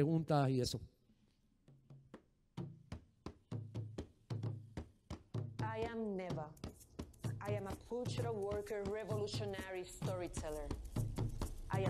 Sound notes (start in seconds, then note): 3.1 upbeat percussion music; 5.8 voiceover